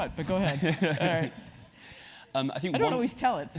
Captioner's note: laugh